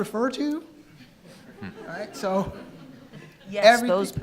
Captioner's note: attendees laughing